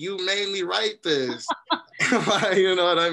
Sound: laughter

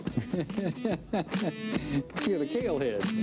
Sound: man laughing

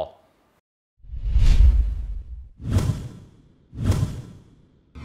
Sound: whooshing

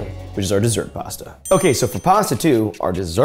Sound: bell dings

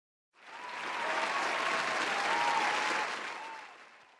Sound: audience applauding

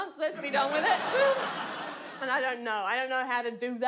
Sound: audience laughs

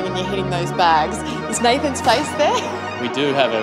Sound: chuckles

